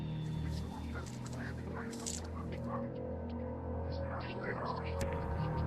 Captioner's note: mysterious whispering voices